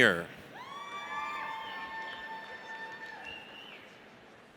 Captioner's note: audience cheers